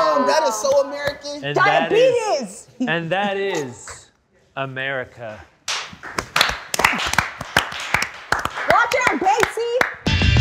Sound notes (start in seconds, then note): 6.0 applause; 10.0 electric guitar music